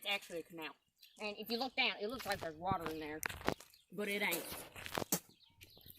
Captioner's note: spits